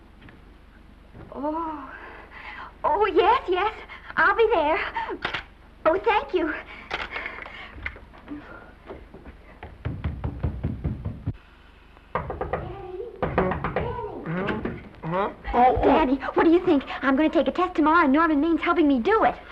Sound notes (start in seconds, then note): 7.8 feet race up stairs; 9.6 Esther knocks on door